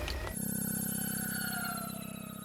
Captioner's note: melodic whirring